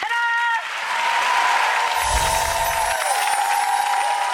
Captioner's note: clapping